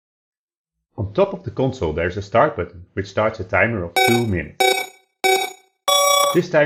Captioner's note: LOUD 4x RACE TRACK BEEPS